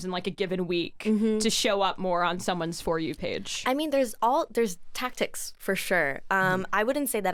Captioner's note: none